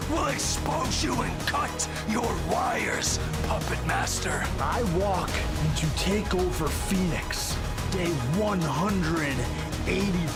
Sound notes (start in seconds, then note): none